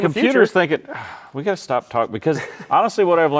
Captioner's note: sighs